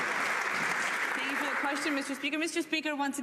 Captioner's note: some Applause